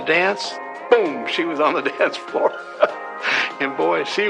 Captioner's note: chuckles